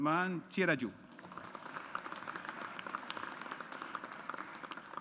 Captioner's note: audience applauds